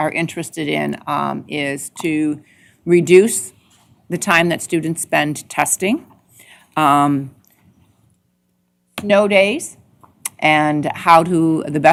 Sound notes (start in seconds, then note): none